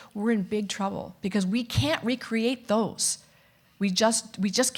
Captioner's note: none